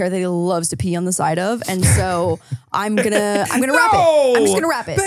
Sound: laughs

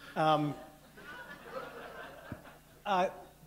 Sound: laughter

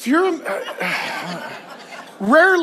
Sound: congregation laughs

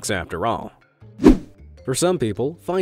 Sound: image whooshing

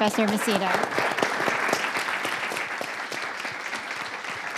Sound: audience applauding

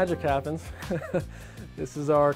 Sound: chuckle

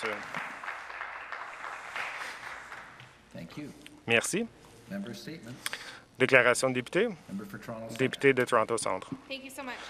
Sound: some Applause

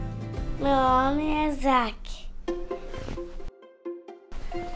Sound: speaks in foreign language

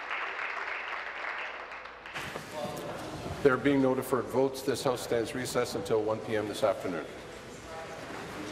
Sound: applause

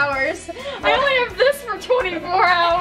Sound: laughing

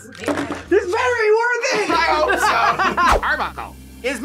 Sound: laughs

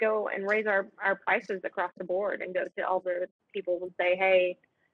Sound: speaking faintly

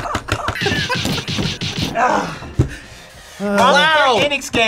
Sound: laughs; punches thudding; buzzer barks

